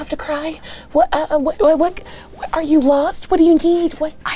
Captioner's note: stuttering